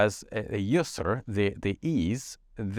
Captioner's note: speaks in foreign language